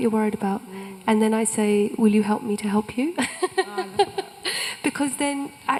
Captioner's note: laughs